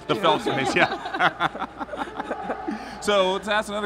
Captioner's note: chuckling